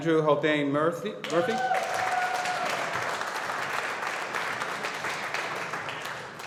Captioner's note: audience applauding